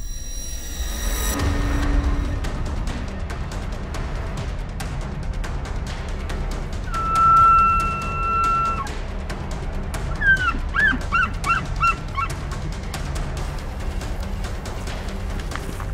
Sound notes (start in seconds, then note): 0.2 dramatic music; 6.8 elk calling